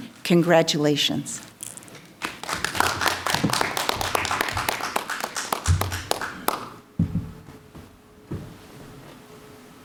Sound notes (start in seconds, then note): 2.2 clapping